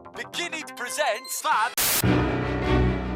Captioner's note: Static